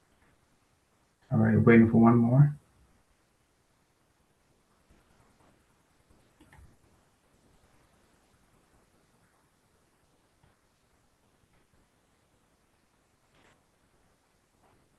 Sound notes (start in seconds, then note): 4.5 pause